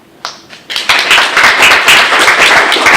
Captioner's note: applause